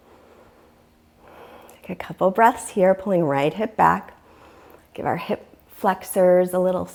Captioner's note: deep breathing sounds